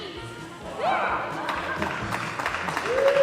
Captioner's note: applause